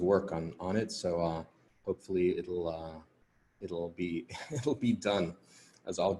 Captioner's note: laughing